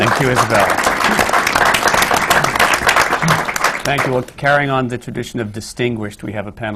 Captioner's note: applause